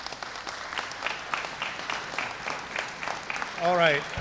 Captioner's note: applause